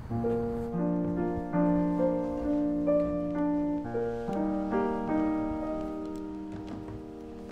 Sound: beautiful piano music; steps clattering

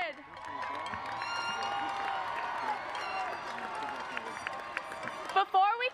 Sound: audience cheers and applauds

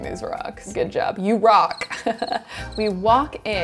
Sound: crickets chirping

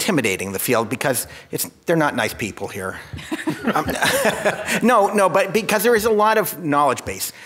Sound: laughs

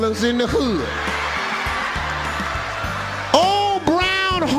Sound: audience laughing

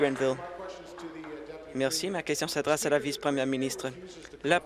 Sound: applause

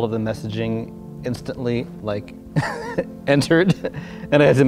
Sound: laughs

